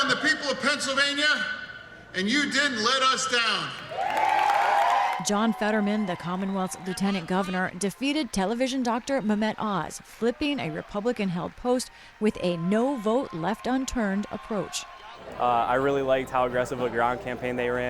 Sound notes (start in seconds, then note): 3.8 cheering and applause